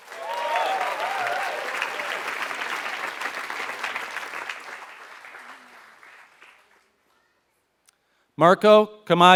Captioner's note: applause